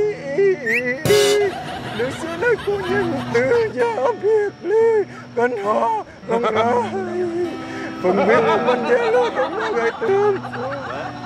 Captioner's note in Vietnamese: Tiếng cười